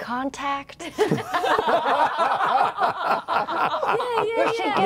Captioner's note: laughter